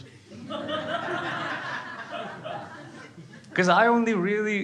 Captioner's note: crowd laughing